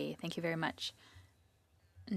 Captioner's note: speaking French